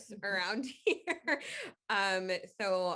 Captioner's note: chuckling